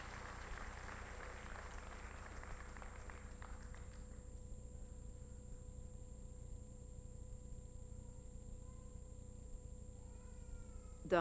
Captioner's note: applause